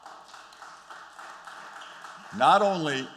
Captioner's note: applause